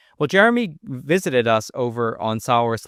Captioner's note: none